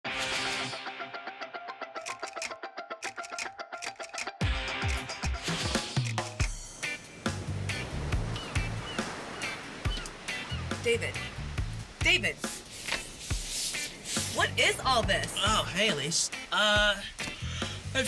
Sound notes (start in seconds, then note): 8.1 ocean sounds